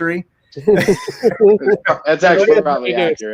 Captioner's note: all laughing